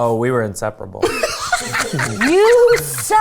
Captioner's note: laughing